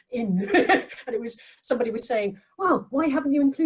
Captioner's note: laughs